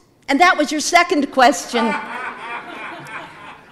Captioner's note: audience laughing